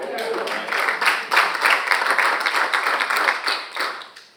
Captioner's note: all applauding